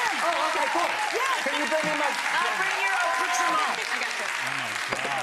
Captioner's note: audience cheering